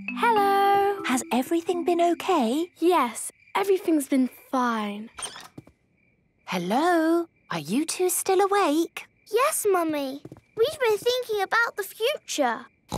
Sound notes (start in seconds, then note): 6.5 whisper